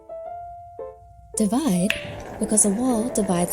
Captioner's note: object tapping, balls rumbling